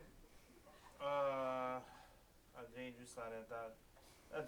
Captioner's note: non-english speech